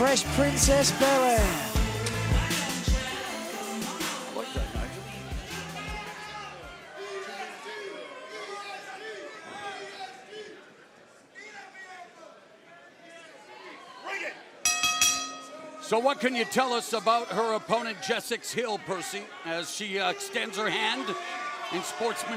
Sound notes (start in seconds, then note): 7.0 crowd chatter; 14.6 bell ringing